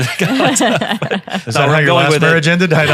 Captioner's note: panel laughing